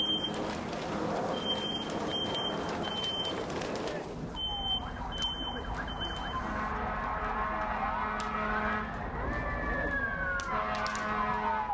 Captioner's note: sirens